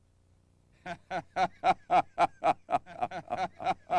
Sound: deep chuckle

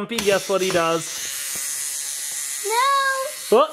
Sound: electronic whining

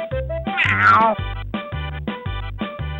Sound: Gary meows

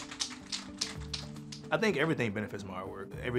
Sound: paint can rattling

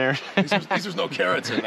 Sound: chuckling

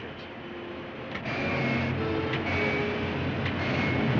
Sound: engines Roaring

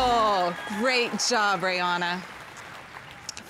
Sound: crowd cheering

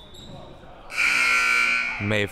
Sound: buzzer sounding

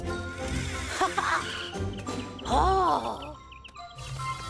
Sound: laughs

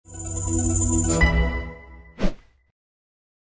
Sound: whooshing

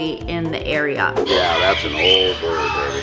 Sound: birds squawking

